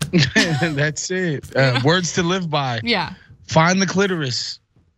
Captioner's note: laugh